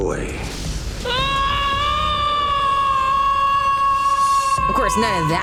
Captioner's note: screaming